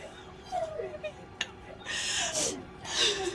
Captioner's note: crying